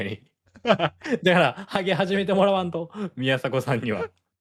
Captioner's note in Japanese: 笑い